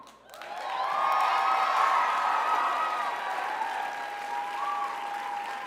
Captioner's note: crowd cheers